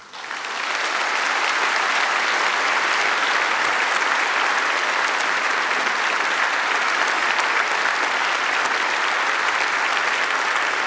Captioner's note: applause